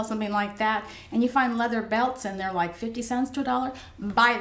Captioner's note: none